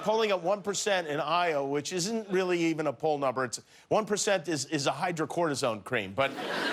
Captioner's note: laughter